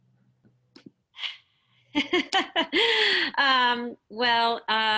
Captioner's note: laughing